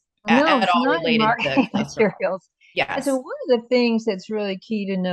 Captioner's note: laughs